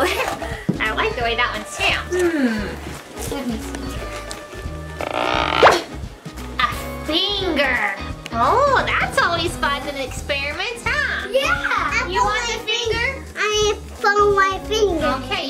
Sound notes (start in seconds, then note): 0.0 laughs; 4.9 audio pops